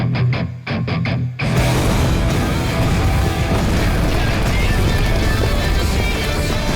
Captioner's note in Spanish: Explosión